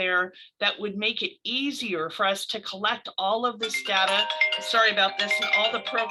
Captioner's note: phone rings